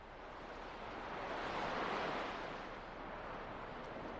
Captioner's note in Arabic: أصوات أمواج